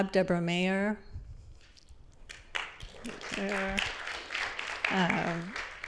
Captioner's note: applause